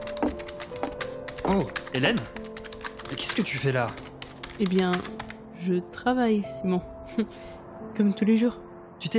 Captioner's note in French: tapote sur son clavier